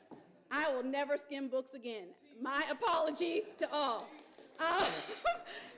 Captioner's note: laughs